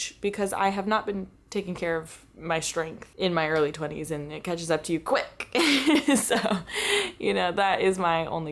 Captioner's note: laughter